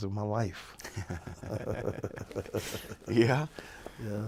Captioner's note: laughs